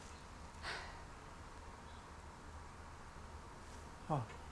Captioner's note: Laura sighs